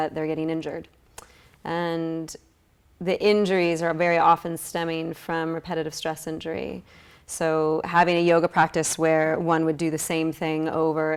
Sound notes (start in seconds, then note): none